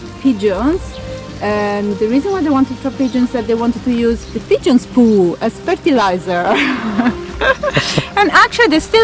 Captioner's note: laughs